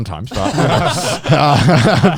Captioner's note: all laughing